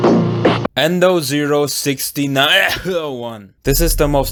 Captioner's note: cough